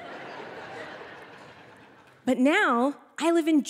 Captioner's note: audience laughing